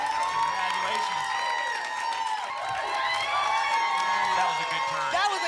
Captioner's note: applause and cheering